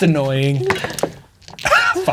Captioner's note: dice rolling; players laughing